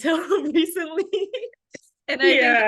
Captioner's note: laughter